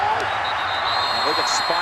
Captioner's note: whistle blows